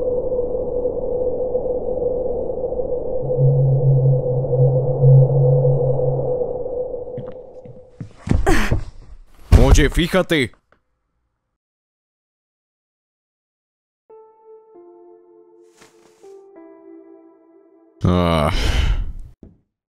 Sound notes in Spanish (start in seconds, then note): 18.0 Suspira